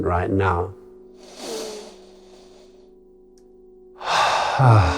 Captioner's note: inhales; exhales